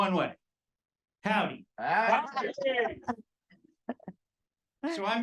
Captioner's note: audience replying